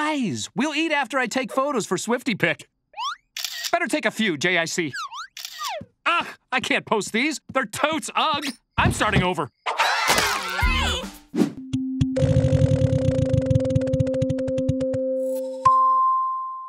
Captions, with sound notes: We'll eat after I take photos for SwiftyPic. Better take a few, JIC. Ah! I can't post these. They're totes ug. I'm starting over. [screaming]